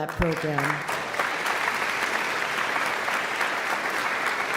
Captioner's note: all clapping